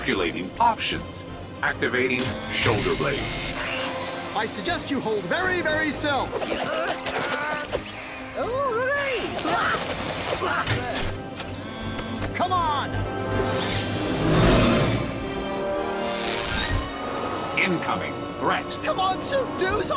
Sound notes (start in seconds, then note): 6.6 Scrooge groaning; 10.4 Beaks, Gyro exclaim; 13.3 suit buzzes